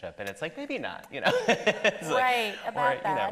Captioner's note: laughs